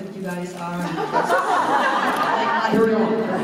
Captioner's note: laughter